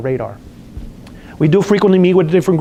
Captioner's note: lip smacks